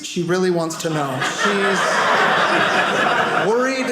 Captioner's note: audience laughing